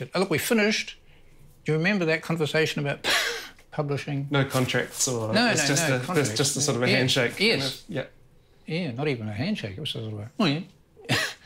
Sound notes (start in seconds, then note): 3.1 laughs